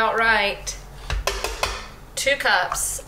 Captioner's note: scooper taps